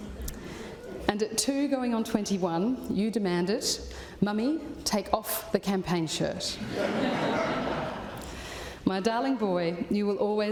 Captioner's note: laughter